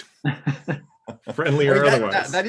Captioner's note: laughing